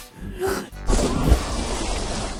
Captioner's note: takes a deep breath; water splashing